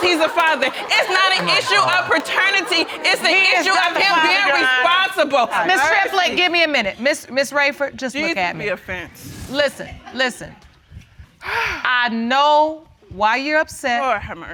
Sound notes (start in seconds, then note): 8.9 audience chuckling; 11.4 exhales sharply